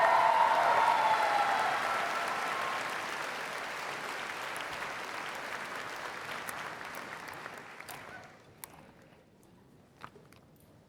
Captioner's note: cheers and Applause